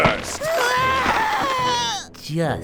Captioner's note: screaming in agony